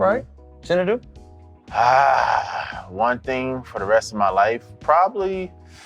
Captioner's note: exhaling